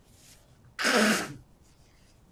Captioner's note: wiping nose